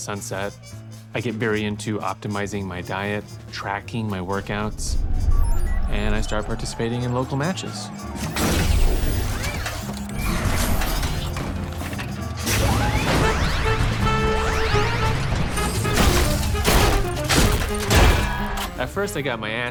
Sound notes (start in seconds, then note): 4.5 system beeping; 7.4 crowd cheering; 7.4 robots whir